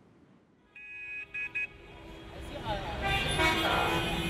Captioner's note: traffic noises; urban noises